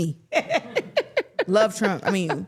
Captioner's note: everyone laughs